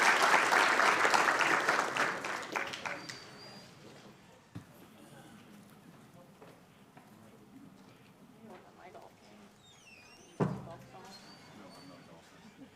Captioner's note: applause